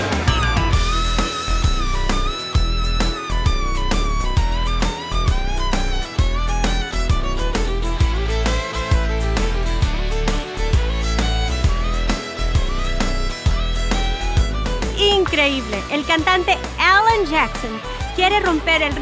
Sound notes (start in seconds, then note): 0.2 instrumental music; 14.8 foreign language